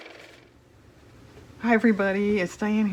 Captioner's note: car motor